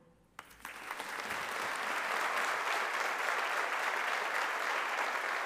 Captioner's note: audience applauding